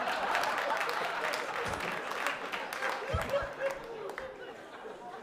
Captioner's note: applause; laughter